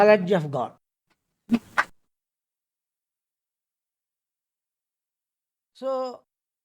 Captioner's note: claps